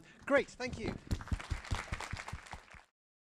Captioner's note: applause